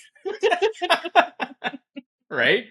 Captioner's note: laughing